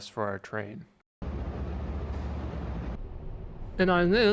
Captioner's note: ventilation systems blowing